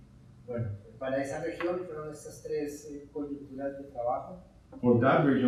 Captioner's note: speaking in Spanish